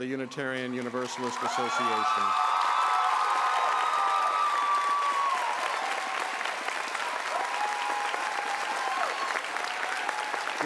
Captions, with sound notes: has been elected the ninth president of the Unitarian Universalist association. [Applause]